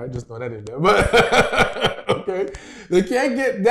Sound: laughter

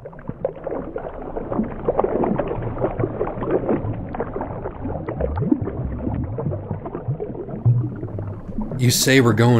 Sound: the rush of water intensifies

